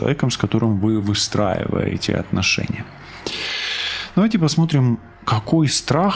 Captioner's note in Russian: фыркает; вздыхает